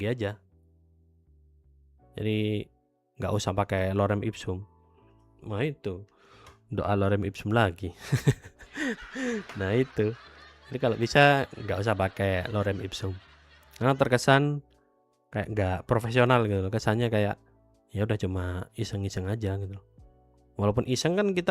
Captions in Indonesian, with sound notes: aja ya. Jadi enggak usah pakai lorem Ipsum. Nah, itu doa lorem Ipsum lagi. [tertawa] [terkesiap] Nah, itu. Jadi kalau bisa enggak usah pakai lorem Ibsum karena terkesan kayak enggak profesional gitu loh. Kesannya kayak ya udah cuma iseng-iseng aja gitu. Walaupun iseng kan